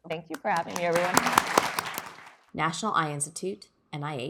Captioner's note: applause